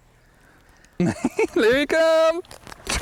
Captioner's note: laughter